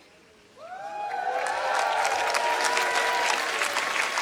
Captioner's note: applause